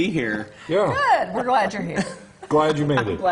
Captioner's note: laughter